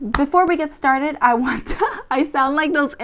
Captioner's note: laughs